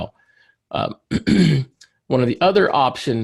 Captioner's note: clears throat